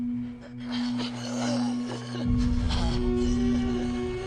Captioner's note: shivering